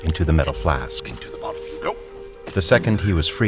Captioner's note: dull sloshing of viscous liquid